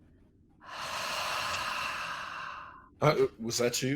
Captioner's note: air whooshing